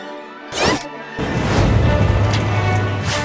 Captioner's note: the sound of the tank operating